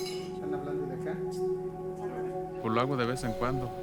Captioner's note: speaking Spanish